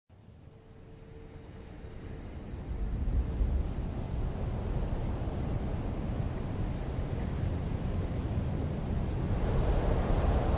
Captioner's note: wind blowing